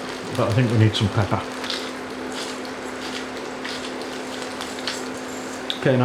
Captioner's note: grind grind